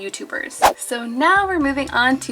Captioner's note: air whooshing